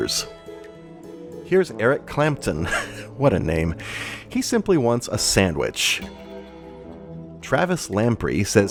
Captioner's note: chuckles